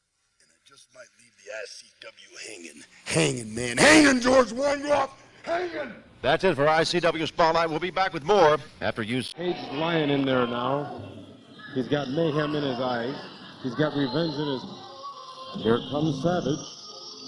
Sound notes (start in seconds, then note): 12.7 ambient crowd noise